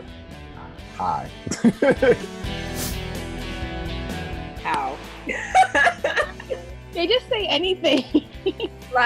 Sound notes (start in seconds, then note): 5.3 laughter